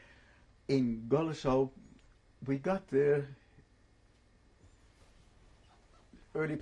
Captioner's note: pauses for 3 seconds